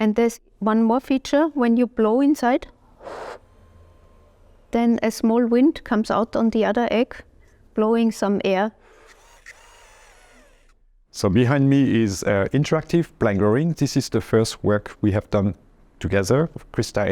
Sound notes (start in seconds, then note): 2.9 blowing air; 8.8 motors whirring